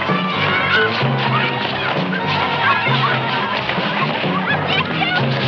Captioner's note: children clamoring